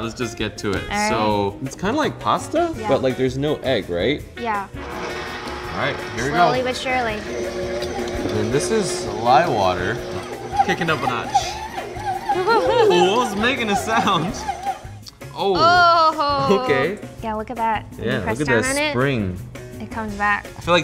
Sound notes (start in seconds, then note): 7.2 mixer whirring; 11.7 mixer squeaking; 12.2 laughs